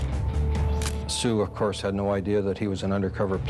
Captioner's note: camera shutter click